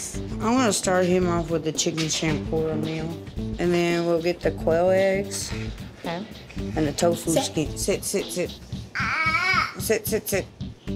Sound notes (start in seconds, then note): none